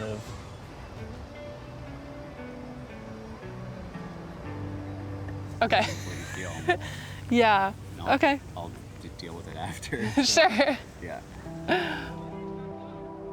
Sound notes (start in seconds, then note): 0.1 soft music; 5.6 laughs; 11.8 laughs